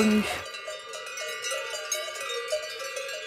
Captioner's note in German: Kuhglocken